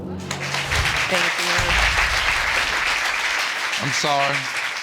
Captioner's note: audience applauding